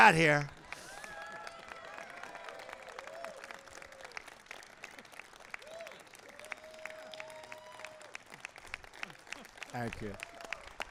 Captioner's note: applause